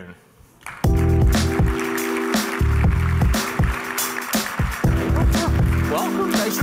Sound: audience applauding; upbeat music

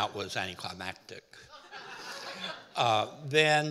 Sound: audience laughing

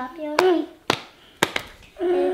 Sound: hands tapping

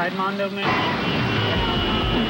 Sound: car tires screech

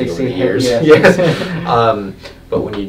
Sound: laughs

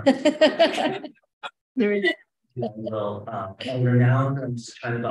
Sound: laughing

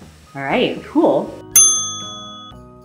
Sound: ding

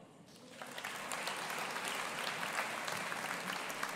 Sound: audience applauding

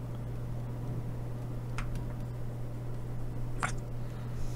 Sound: typing

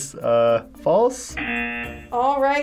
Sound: buzzer rings

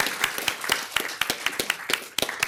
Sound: applause

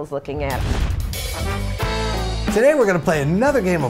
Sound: swoosh / music plays

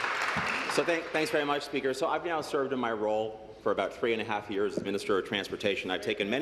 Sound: applause

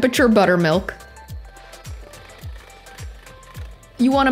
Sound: soft upbeat music; mixer whirring

